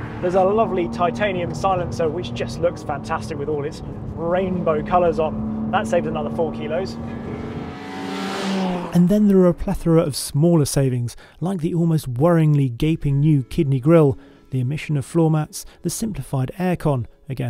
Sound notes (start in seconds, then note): 8.0 car rasping